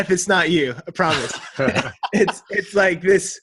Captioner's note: everyone laughs